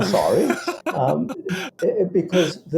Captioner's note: laughter